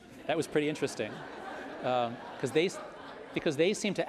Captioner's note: audience laughing